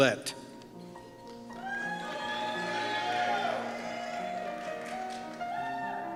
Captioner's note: cheers and Applause